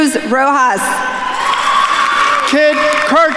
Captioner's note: attendees cheering and applauding